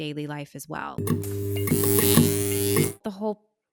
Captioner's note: electricity buzzing